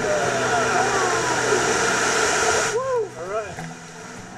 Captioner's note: guitar music intensifies; water rushing